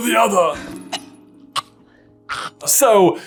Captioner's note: cough gag hack